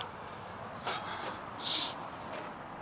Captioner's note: George sniffles